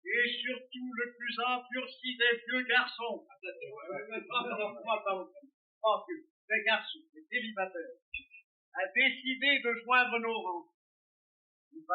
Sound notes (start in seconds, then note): 3.7 laughing; 5.8 french continues